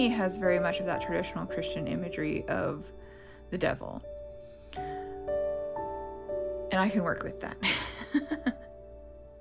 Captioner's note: laugh